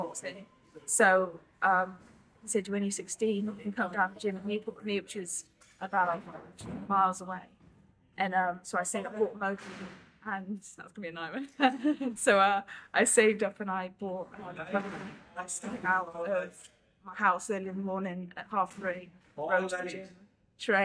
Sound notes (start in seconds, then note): 11.6 laughs